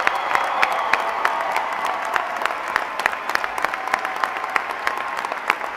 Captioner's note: applause